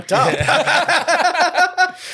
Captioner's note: laughing